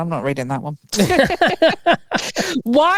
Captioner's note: both laughing